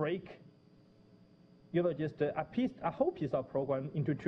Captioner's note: pause